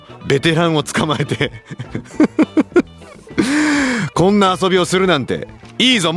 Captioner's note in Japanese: 笑い; 息をのむ音